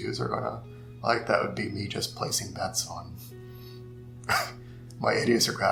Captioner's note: laughing